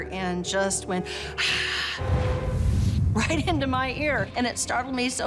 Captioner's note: raspy breath